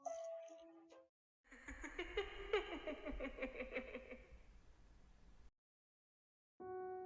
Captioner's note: laughs